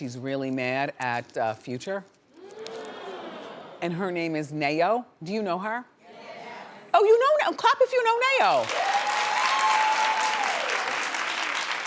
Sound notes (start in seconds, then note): 2.3 audience hums; 8.6 audience cheers